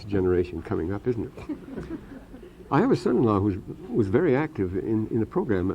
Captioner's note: laughter